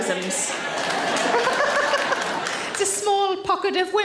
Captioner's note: audience claps; Sarah laughs